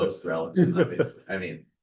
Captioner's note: laughter